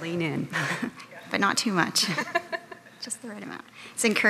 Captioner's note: chuckling